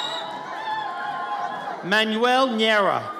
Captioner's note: audience cheers